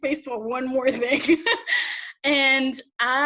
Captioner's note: laughs